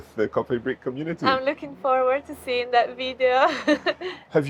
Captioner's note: chuckles